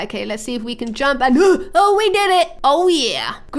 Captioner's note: gasps